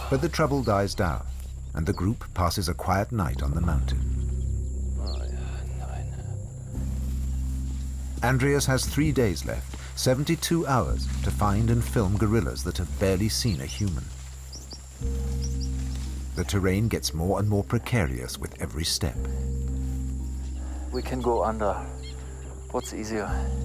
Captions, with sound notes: But the trouble dies down and the group passes a quiet night on the mountain. [muttering in German] Andreas has three days left, 72 hours to find and film gorillas that have barely seen a human. The terrain gets more and more precarious with every step. We can go under. What's easier?